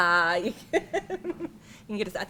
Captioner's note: laughs